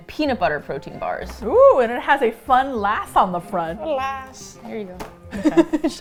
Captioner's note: small voice; laughs